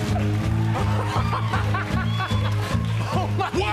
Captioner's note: laughing